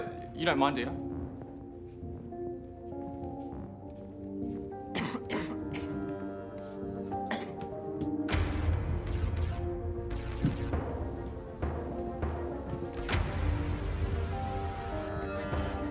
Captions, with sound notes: Oh, you don't mind, do you? [coughs]